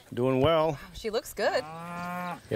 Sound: cows mooing

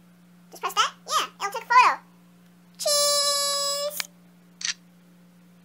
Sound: shutter

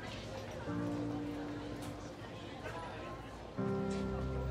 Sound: soft piano music; students murmuring

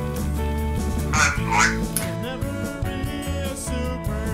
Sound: voiceover

